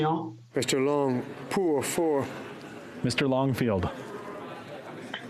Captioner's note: speaking French